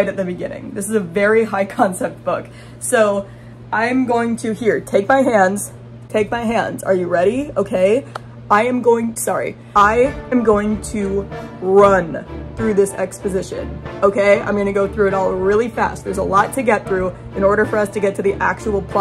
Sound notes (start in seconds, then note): 7.9 bump noise; 9.8 intense music